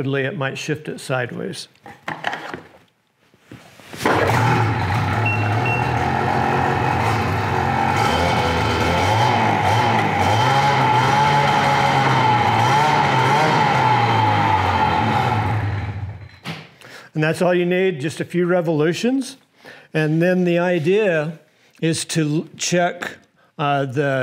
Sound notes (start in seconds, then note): 4.0 engine revving; 4.9 beeping